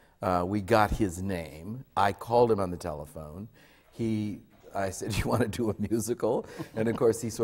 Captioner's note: laughs